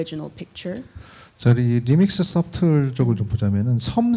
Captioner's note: speaking korean